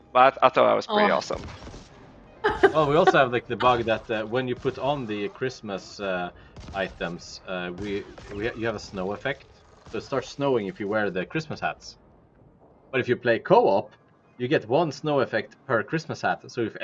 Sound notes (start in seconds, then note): 2.4 laughs